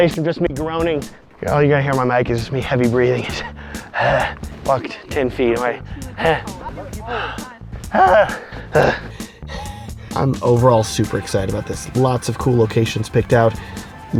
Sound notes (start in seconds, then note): 3.3 gasping; 7.7 heavy breathing; 9.4 groaning; 9.6 gasping